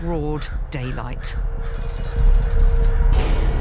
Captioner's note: raven caws